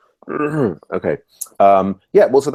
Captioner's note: grunt